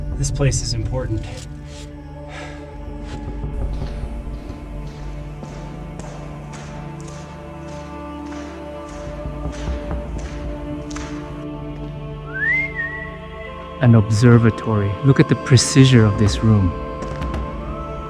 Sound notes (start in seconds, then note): 1.6 broom scratches; 5.1 whistles